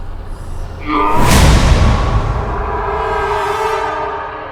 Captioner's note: evil scream